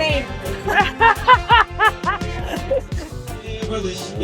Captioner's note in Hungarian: nevetés